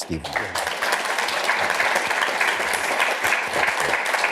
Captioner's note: applause